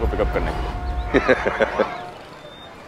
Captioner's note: Karan laughs